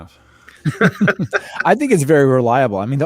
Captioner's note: laughing